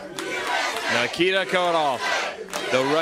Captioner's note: crowd cheering